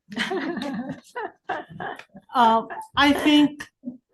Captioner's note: interviewers laughing